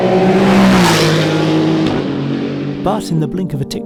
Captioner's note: car engine blasting